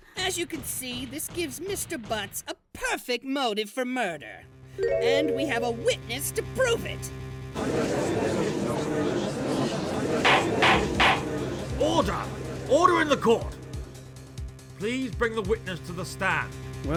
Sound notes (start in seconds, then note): 7.6 crowd murmurs